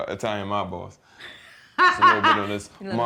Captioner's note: laughter